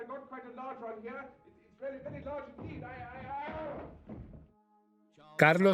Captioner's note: yells; voiceover